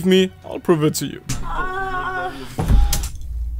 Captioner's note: woman moaning